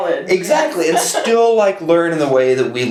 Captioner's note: chuckles